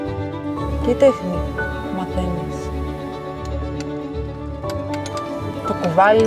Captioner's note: stone chiseling